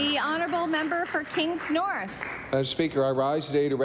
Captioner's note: applause